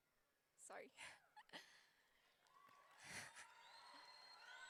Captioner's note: laughs; audience cheering